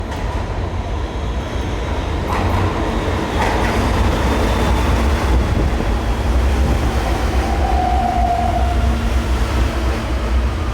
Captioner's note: Rolling stock of R160 E train sounds